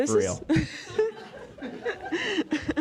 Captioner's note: laugh